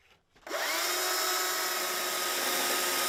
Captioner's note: sounds of sawing